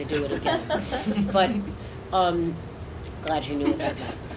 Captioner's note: audience laughing